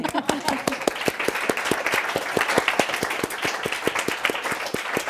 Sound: audience applauding

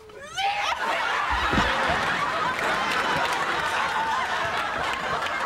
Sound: studio audience laughing

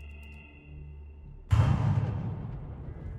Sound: shotgun blast

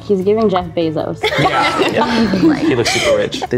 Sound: everyone laughs

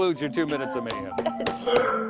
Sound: laughter

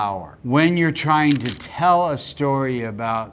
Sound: camera shutter clicking

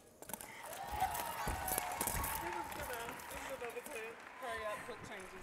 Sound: audience cheering

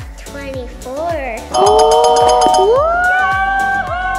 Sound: bell ringing; all cheering

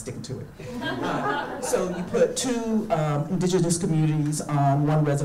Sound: audience laughing

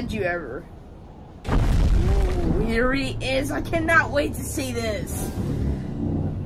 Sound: Godzilla stomps

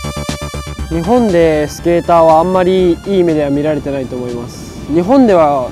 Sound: speaking in Japanese

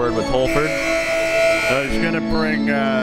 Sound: buzzer

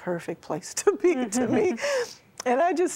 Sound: giggling

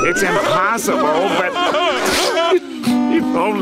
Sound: sniffling

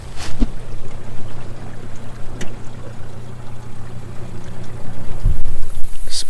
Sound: boat motor idling

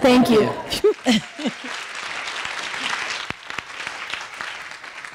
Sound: audience applauding

